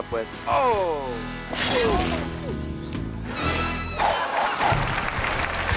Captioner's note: fence rattles; audience applauding